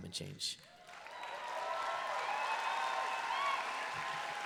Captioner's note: applause